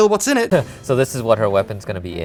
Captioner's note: Monty chuckles